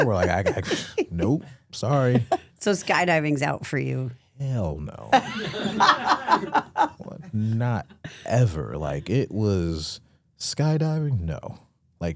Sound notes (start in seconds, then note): 5.2 Stephanie laughing